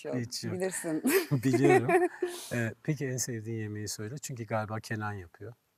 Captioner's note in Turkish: kahkaha